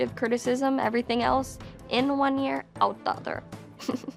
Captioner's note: chuckles